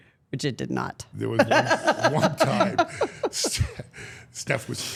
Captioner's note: Steph and Elyse laughing